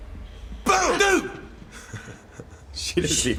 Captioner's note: chuckles